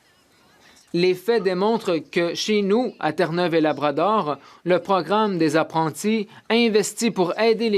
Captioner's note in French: voix de l'interprète